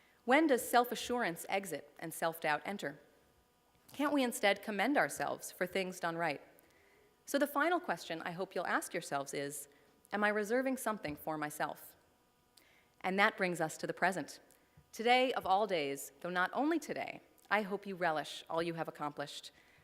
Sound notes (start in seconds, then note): none